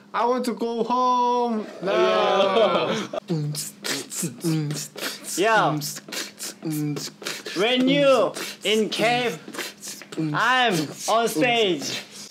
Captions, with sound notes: I want to go home now! (laughs) (beat boxing) - Yo. We're new in cave. I'm on stage.